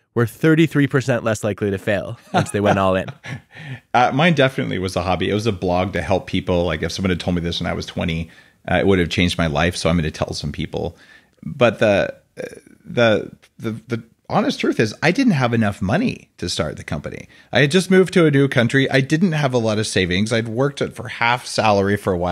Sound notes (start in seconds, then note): 2.1 laughing